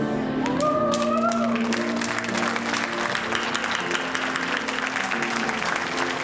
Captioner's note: audience applauding and cheering